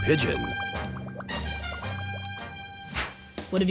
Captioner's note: bubbling